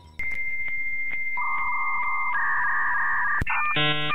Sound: connecting sounds

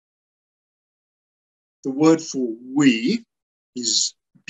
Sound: in Lingala

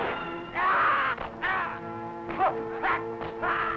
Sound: troops yelling

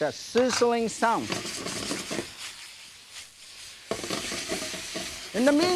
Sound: chicken meat sizzling

